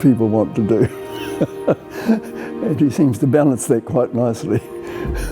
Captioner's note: chuckles